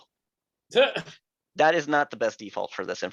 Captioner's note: laughing